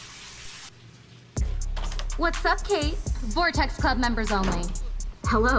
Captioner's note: door Opens and Closes